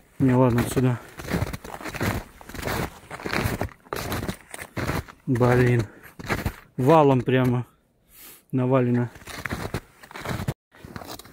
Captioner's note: snow crunching